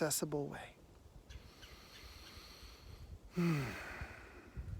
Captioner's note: inhales, exhales